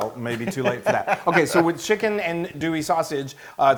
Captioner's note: laugh